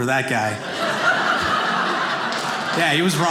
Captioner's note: audience laughing